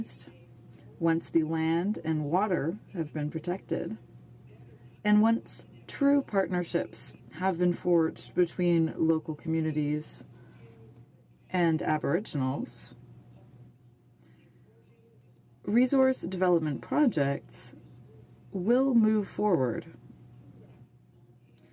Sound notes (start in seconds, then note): 2.4 speaking french